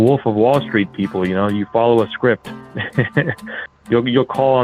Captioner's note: laughs